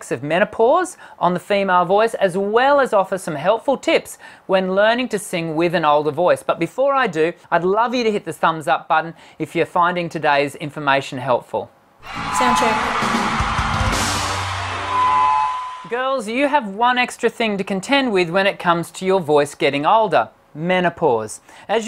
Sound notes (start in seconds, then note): 14.0 crowd cheering